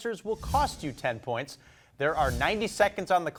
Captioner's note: text whooshing